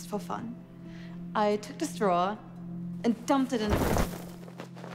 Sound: thuds

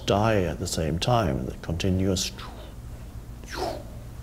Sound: puffs

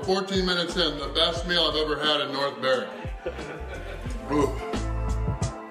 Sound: haha

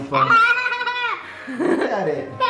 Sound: children scream and laugh

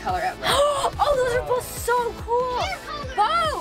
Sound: gasps

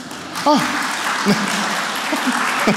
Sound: applause

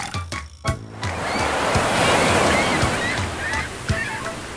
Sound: sound of waves

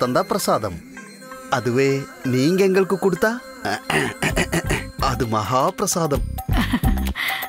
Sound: clears throat; laughs

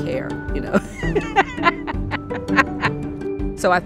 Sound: laughs

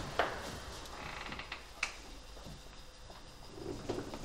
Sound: door creaking

